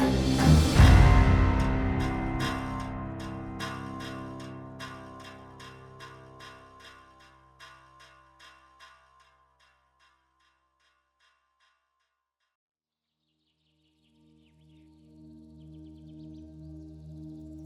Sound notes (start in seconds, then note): 13.3 birds chirping